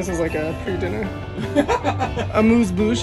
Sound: laughs

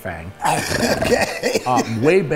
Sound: laughing

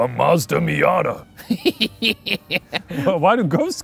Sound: laughing

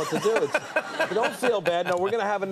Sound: laughing

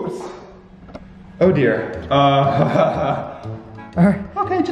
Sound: chuckles

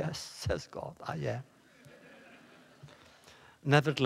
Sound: laughter

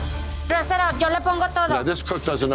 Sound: speaking Spanish

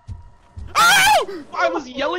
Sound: footsteps; screams

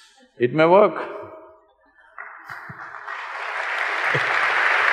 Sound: applause

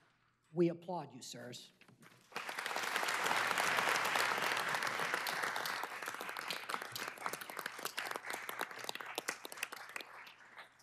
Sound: applause

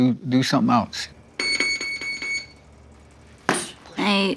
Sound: electric signal beeps

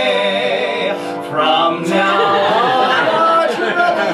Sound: crowd laughs

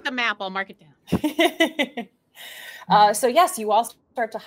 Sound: laughs

